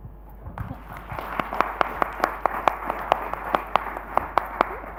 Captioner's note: audience applauds